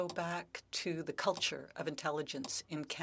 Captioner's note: speaking French